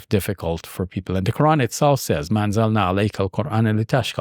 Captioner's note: speaks Arabic